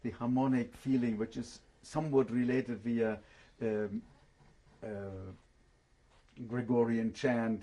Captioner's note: pauses for 3 seconds